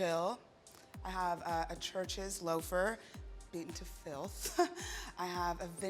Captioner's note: laughs